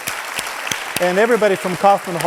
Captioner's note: audience applauds